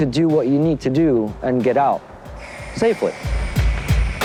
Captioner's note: spray can hissing; upbeat hip-hop music continues